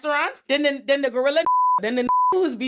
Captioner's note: beep